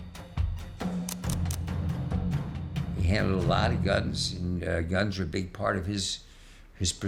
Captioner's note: camera clicks